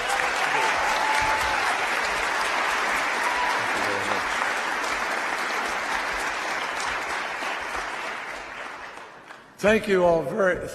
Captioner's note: applause